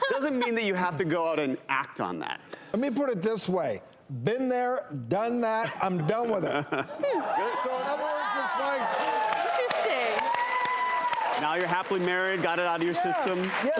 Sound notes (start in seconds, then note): 7.1 audience cheers